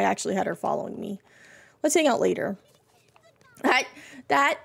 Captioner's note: Minnie Giggles